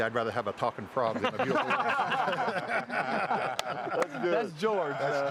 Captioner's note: all laughing